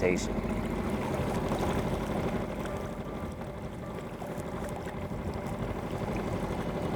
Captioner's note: motor droning; gentle music